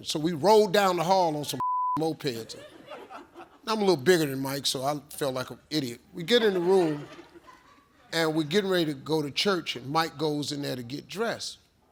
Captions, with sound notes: so we rolled down the hall on some (beep) mopeds. (audience chuckles) Now I'm a little bigger than Mike, so I felt like an idiot. We get in the room, and we're getting ready to go to church. And Mike goes in there to get dressed,